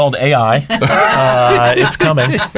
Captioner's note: laughs